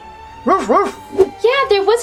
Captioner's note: dog barks